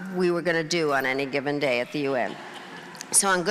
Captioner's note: crowd laughing